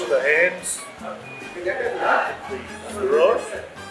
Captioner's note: cafe noises